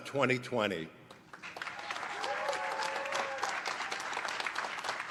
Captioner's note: applause